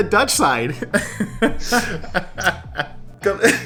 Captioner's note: laughs